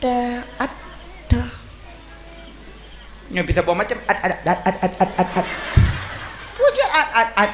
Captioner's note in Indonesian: tertawa